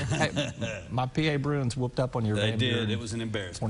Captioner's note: laughing